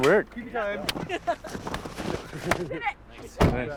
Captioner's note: laughing